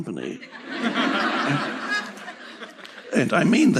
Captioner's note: publicul râde